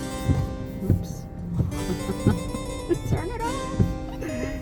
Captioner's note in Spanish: riendo